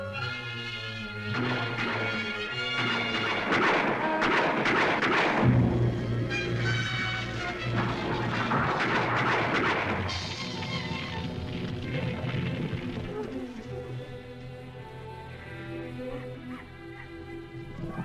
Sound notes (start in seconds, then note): 1.1 gunshots; 7.7 tense music; 14.0 emotional music